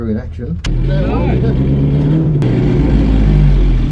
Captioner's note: engine roars